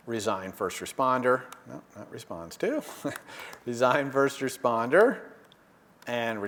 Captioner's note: laugh